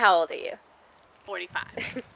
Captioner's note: chuckle